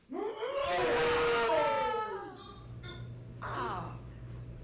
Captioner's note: Dante hurling